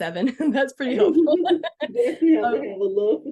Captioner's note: laughing